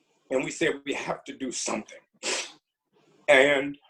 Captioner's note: sniffles